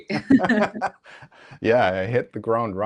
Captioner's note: laughing